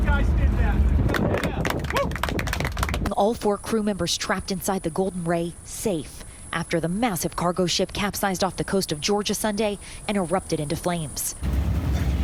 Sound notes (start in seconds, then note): 2.8 applause